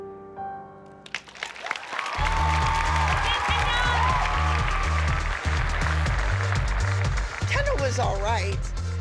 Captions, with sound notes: [applause] Go Kendall! Kendall was all right.